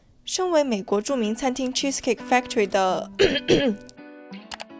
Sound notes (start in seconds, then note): 3.2 pretend coughing